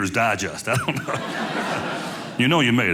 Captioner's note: audience laughing